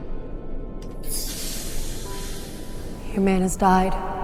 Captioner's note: air hissing